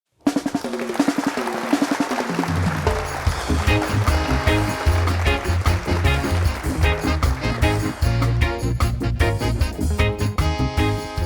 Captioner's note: music and applause